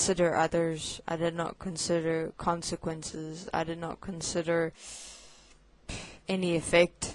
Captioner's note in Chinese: 叹气